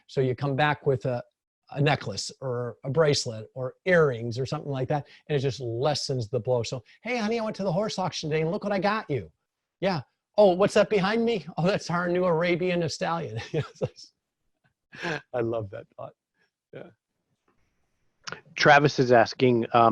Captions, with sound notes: so you come back with a necklace or a bracelet or earrings or something like that. And it just lessens the blow. So, "Hey honey, I went to the horse auction today "and look what I got you. "Yeah, oh what's that behind me? "Oh that's our new Arabian Stallion." (laughing) I love that thought, yeah. - Travis is asking,